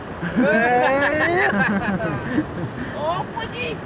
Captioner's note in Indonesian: tertawa